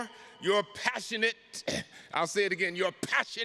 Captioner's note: clears throat